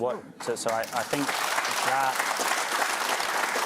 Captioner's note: applause